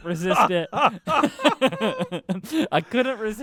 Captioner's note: laughter